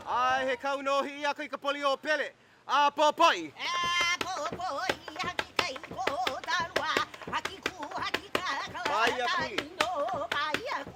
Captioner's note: chanting in Hawaiian language